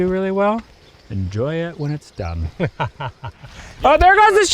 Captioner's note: laughs